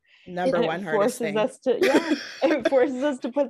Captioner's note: laughing